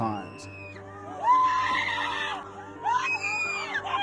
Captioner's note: woman screaming